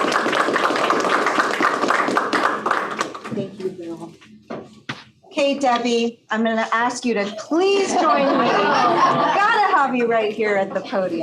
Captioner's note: laughter